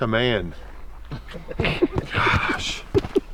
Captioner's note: laughing